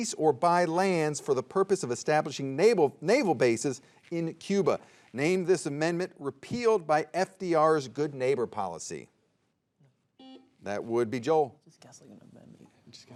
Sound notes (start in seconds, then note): 10.2 soft beeping